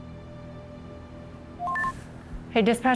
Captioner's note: radio beeps